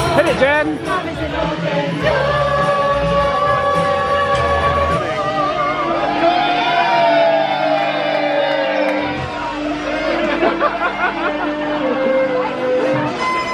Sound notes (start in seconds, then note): 5.3 crowd cheering; 10.1 laughing; 13.3 tense violin music